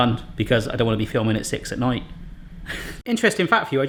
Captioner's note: laughs